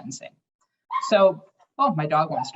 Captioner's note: dog barks